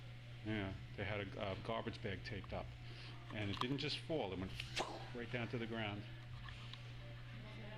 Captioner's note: imitates woosh